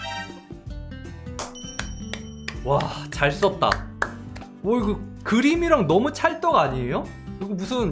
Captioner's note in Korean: 박수